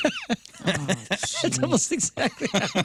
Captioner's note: laughing